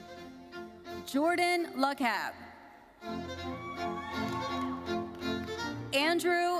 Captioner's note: audience cheering